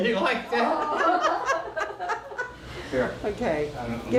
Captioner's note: laughing